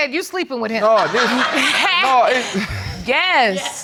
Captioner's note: audience laughing